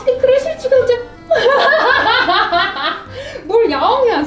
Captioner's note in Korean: 웃음